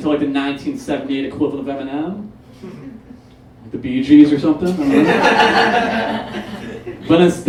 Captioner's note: audience Laughs